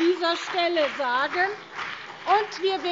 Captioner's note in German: Beifall BÜNDNIS 90/DIE GRÜNEN und vereinzelt CDU